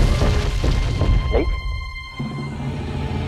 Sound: gulps

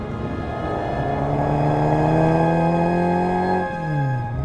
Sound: engine revving; gentle inspiring music

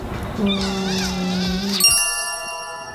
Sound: kissing noise; loud sparkle

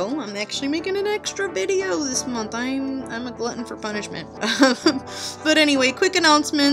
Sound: laughing

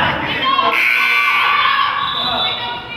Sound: buzzer goes off; whistle blows

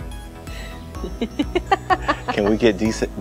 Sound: laughter

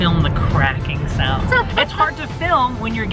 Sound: laughs

